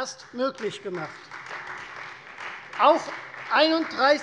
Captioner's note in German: Beifall Freie Demokraten